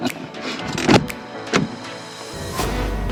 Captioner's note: door clunks shut and locks